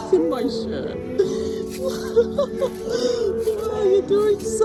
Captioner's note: laughs